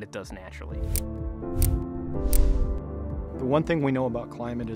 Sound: air whooshes

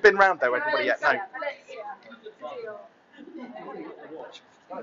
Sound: chattering

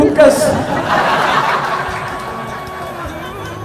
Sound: laughter

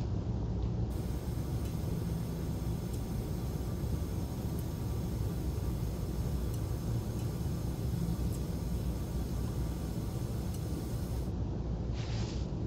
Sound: pipes gently hissing

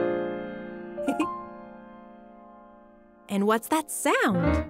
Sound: laughing

